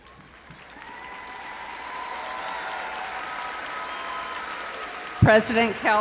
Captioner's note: audience cheering and applauding